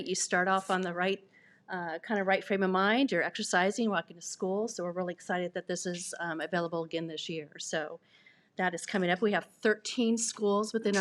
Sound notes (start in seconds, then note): none